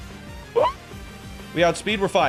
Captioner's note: gasping